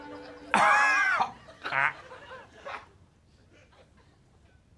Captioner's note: coughs